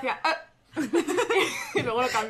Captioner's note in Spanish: risas